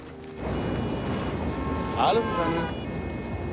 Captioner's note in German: Stadt-Lärm